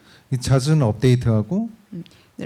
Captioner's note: speaking korean